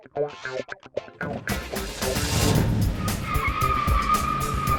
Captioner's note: tires screeching